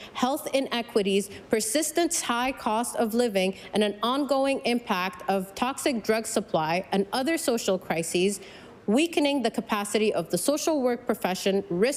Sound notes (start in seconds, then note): none